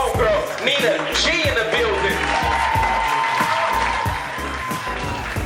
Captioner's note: cheers, applause